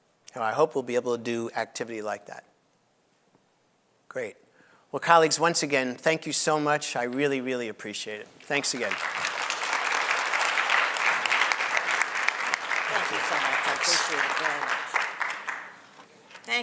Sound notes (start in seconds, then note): 8.5 audience applauds